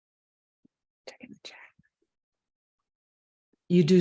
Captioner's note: whispers